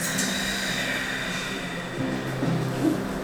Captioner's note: exhales